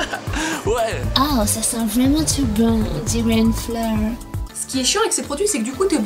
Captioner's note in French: Accent anglais